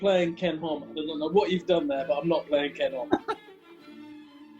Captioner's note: laughs